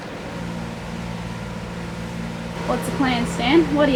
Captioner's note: engine rumbles